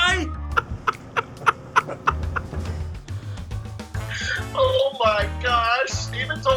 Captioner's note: laughing